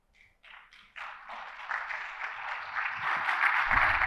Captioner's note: audience applauds